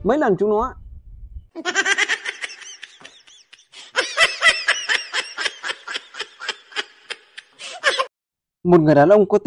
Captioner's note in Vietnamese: Tiếng cười